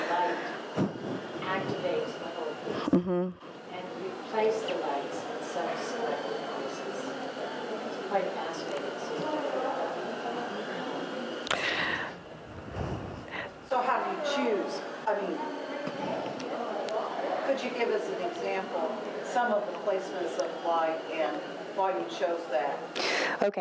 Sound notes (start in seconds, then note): 8.4 speaks faintly